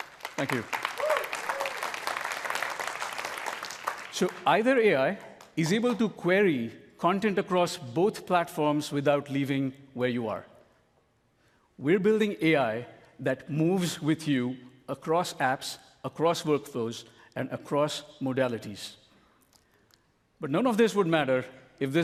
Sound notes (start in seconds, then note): 5.2 applause